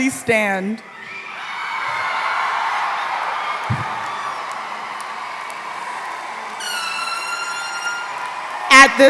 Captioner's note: applause